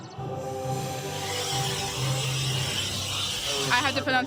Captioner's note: air hissing